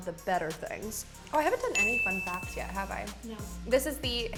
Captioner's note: ding